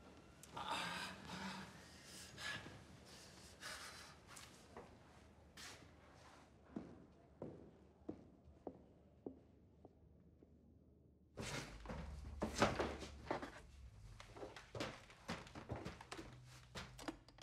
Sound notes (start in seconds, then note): 0.5 Palle groans and pants; 6.3 footsteps recede